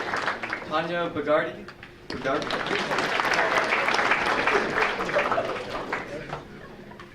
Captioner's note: audience applauding